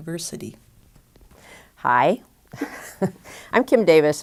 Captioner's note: chuckle